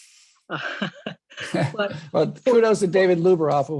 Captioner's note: laughing